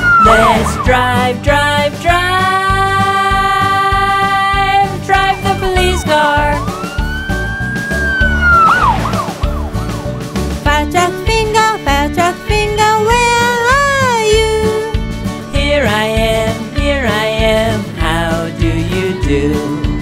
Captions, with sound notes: Let's drive, drive, drive, drive the police car (police car sirens) Fire truck finger, fire truck finger, where are you? Here I am, here I am. How do you do?